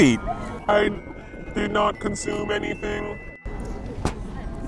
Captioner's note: robot voice